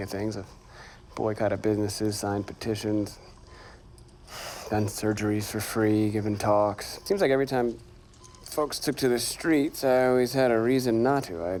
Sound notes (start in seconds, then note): 3.6 sighs